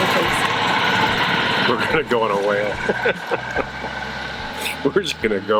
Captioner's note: laughs